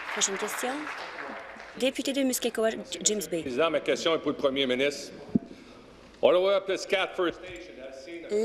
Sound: applause

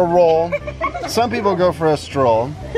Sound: giggling

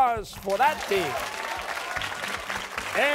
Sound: cheers and applause

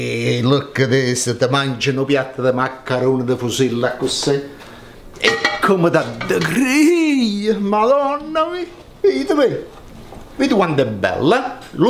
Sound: speaks italian

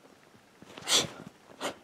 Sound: many deciding sniffs; sniff

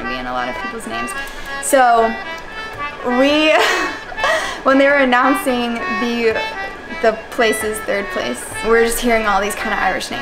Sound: laughing

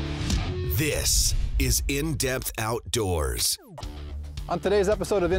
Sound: voiceover

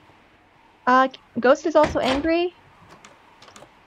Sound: door unlocks

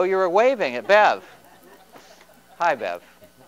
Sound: laughter

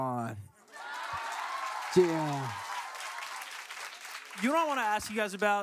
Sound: laughing and applauding

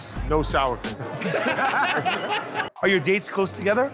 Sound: laughing

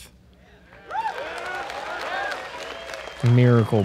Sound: applause

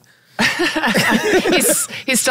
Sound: all laughing

